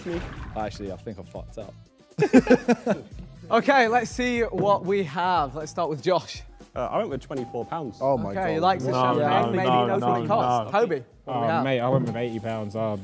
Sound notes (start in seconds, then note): 2.2 Sidemen laugh